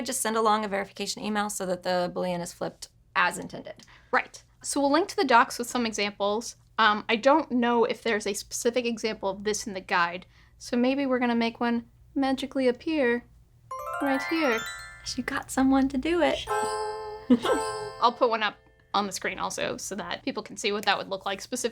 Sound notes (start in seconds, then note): 16.4 mock windchimes